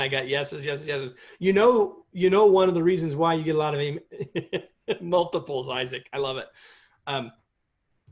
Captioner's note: laughter